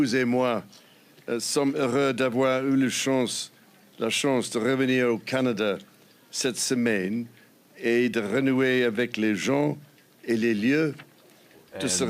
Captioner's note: speaking French